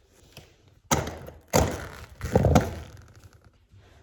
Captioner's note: leather strap creaks